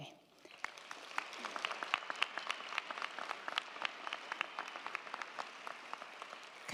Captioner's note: crowd clapping; crowd cheering